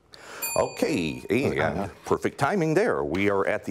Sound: bell rings

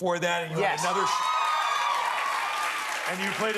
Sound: cheers and applause

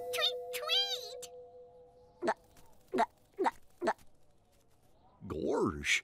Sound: gurgles

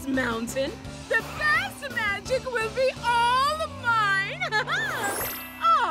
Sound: chuckles

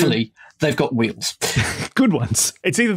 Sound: snickers

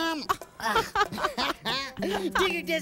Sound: both laughing

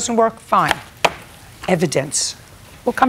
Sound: folder crease taps desk

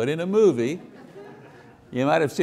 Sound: audience laughing

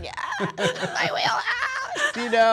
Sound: high pitched voice

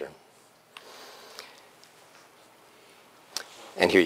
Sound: pause

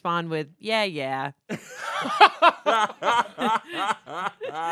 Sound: everyone laughs

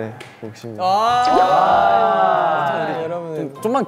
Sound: exclamations from everywhere

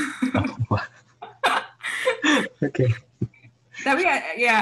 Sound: chuckles

